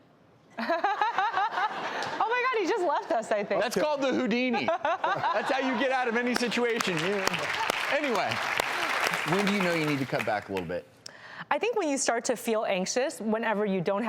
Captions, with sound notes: Oh, my god, he just left us I think. That's called the Houdini. That's how you get out of any situation. Any way. (applause) When do you know you need to cut back a little bit? I think when you start to feel anxious whenever you don't